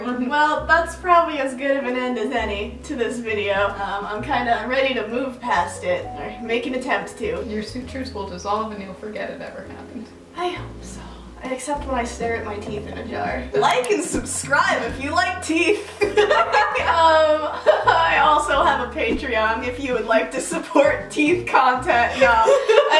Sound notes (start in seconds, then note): 16.0 both laughing; 22.0 laughing